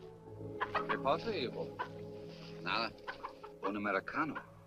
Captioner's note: priest speaks Spanish